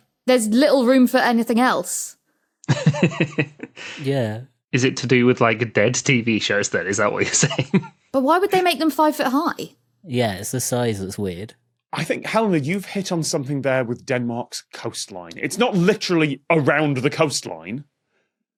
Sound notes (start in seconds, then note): 2.6 giggles